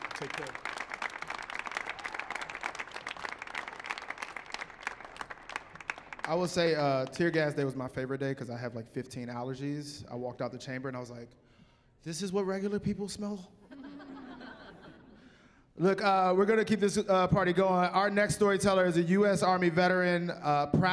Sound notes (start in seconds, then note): 1.6 applause; 13.7 chuckling